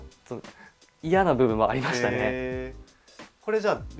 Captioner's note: laughs